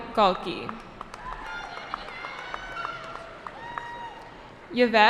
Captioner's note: cheering